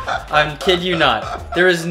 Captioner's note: hysterical laughter